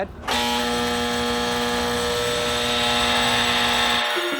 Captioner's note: machine whirring